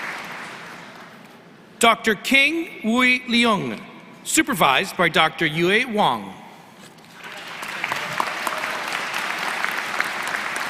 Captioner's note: applause